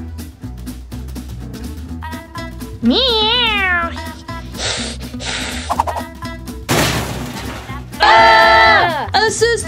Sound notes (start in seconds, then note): 3.1 cat meowing and hissing; 6.7 sudden crash; 8.0 Paw Patrol screaming